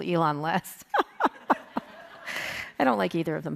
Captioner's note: Kara laughs